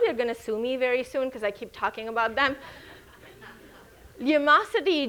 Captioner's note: audience chuckles